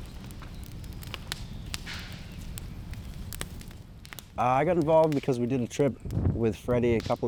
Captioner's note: fire crackling